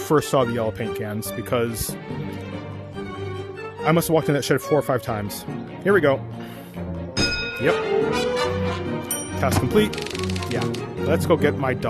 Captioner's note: ding